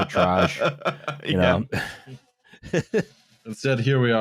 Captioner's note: laughing; laughs